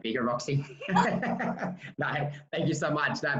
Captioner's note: laughing loudly